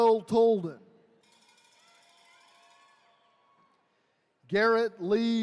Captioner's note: attendees cheering